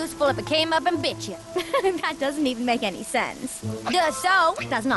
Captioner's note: chuckles